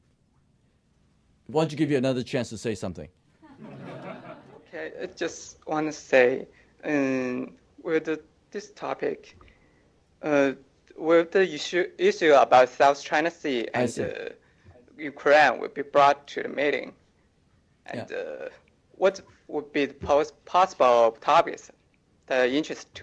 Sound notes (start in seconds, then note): 3.4 laughter